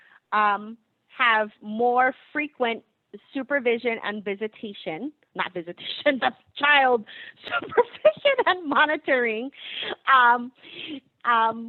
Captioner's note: laughing